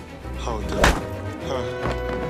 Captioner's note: face punch